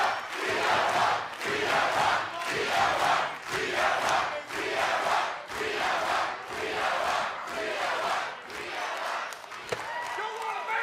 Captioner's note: fans chanting